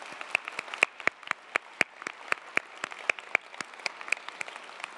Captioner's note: audience applauding